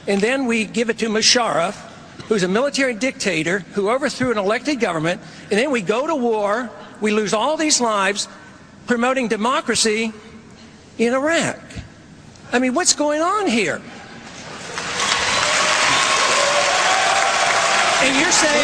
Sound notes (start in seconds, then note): 14.5 cheers and applause